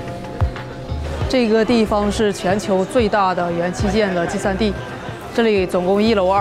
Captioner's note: speaking in Chinese